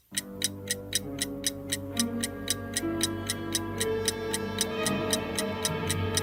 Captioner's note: the sound of a ticking clock